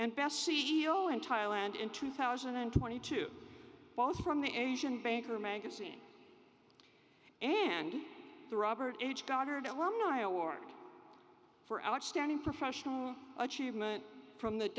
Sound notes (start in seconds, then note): none